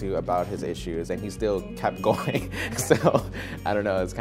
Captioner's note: laughing